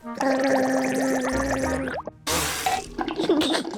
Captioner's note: gargles